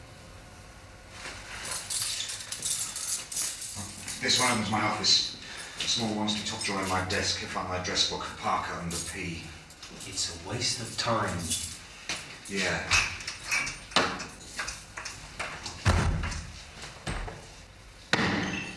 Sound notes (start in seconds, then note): 1.5 keys jangle